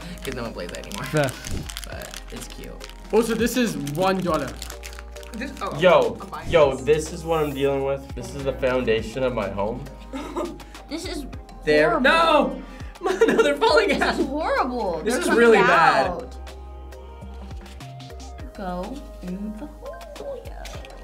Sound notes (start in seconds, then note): 10.1 laughs; 13.0 laughs